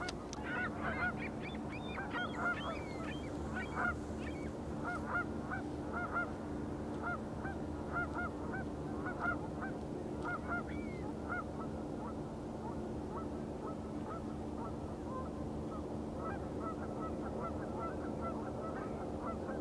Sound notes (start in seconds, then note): 0.4 birds chirping